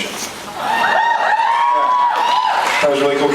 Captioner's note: cheers